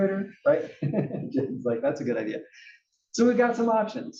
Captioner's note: laugh